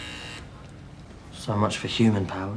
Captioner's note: buzzes